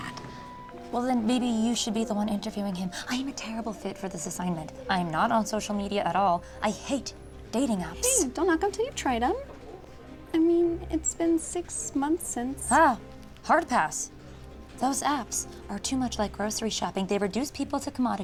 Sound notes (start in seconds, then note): none